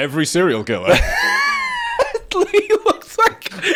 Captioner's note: laughing